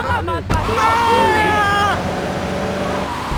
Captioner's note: yelling